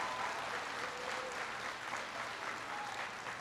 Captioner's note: applause